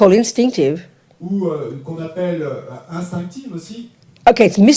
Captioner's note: French